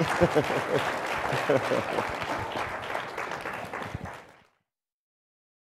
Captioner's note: applause